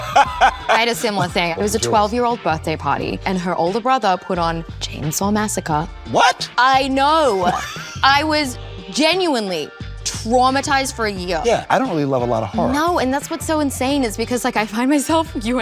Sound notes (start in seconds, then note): 0.0 Colman laughs; 7.4 Colman laughs